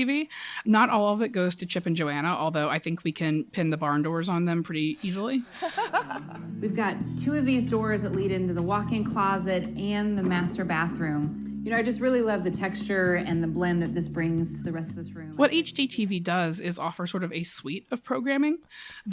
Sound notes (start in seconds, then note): 5.4 laughter; 5.5 soundbite of tv show, "fixer upper"